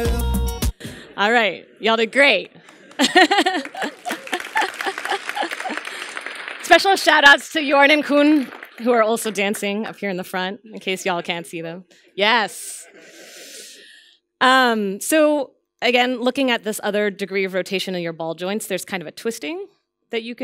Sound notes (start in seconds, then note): 2.6 applause